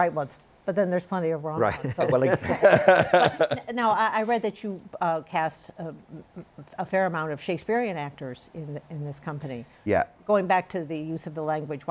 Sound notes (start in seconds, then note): 1.7 laughter